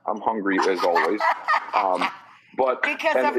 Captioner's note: laughing